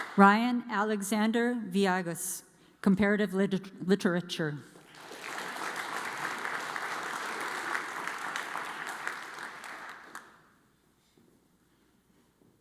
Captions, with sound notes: Ryan Alexander Viagus, Comparative Literature. (audience applauds)